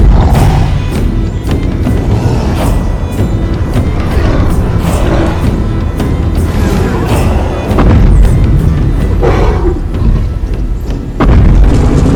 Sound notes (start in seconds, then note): 0.7 Kong growling; 0.7 loud stomping sounds